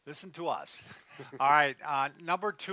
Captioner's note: chuckles